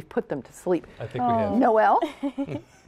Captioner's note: laughter